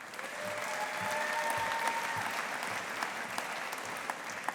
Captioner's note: audience applauding